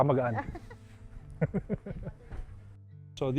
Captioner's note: laughs